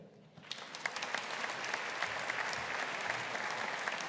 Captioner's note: audience applauding